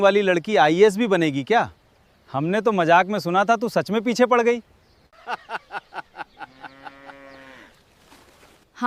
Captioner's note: laughter